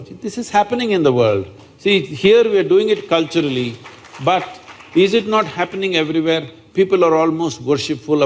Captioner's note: applause